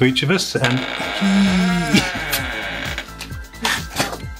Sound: box creaks

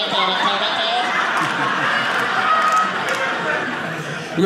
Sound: audience laughing

